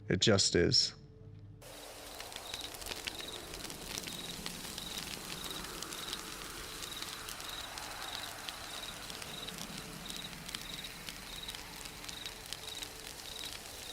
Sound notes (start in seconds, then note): 2.4 fire crackling; 6.4 crickets chirping; 6.4 owl hooting